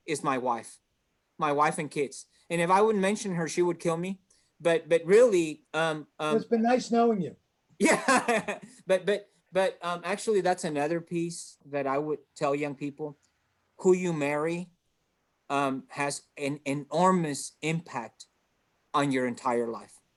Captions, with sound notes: is my wife, my wife and kids. And if I wouldn't mention her, she would kill me. But really- - It's been nice knowing you. - Yeah (chuckles). But actually that's another piece that I would tell young people. Who you marry has an enormous impact on your entire life.